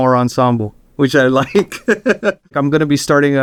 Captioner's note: laughs